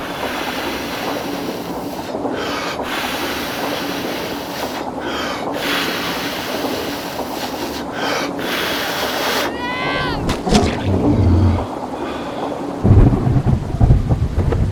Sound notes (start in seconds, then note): 0.1 exhale; 2.2 inhale; 2.9 exhale; 5.0 inhale; 5.7 exhale; 8.0 inhale; 8.5 exhale; 12.0 gasps